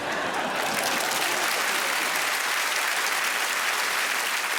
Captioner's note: applause